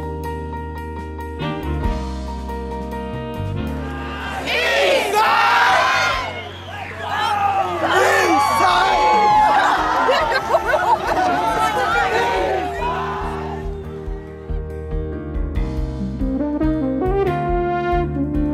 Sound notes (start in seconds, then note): 9.0 laughing